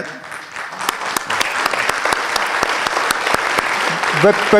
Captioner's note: applause